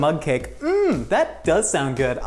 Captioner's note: exclaims loudly